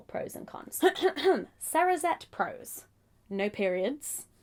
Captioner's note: clears throat